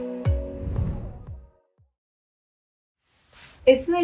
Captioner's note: air whooshing